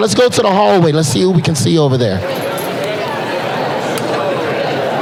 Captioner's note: Crowd conversing and milling around David Letterman